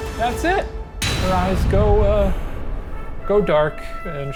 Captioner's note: dramatic clang